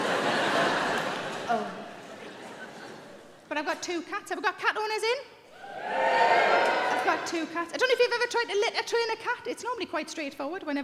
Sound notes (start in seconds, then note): 5.5 audience cheering